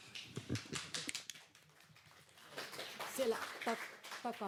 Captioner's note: applause